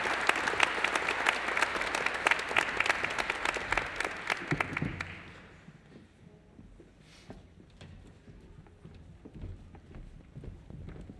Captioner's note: applause